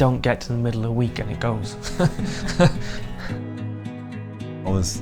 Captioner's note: laughs